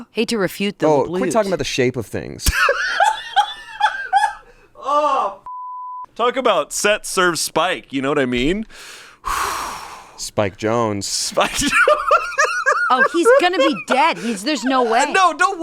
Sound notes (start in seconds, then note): 2.5 laughs; 5.5 beep; 11.4 laughs